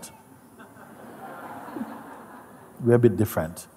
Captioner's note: Lachen